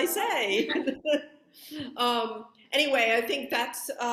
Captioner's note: laughing